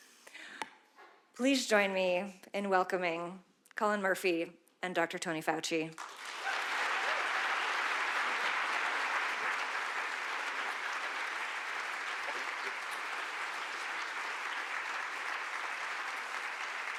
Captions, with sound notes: Please join me in welcoming Cullen Murphy and Dr. Tony Fauci. (audience applauding) (audience cheering)